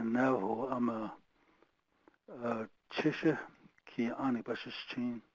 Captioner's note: speaking foreign language